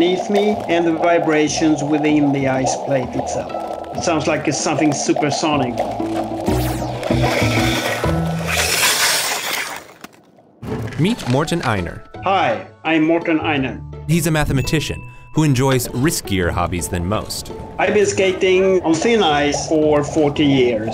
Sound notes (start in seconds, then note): 6.2 bright upbeat music; 9.3 skates swooshing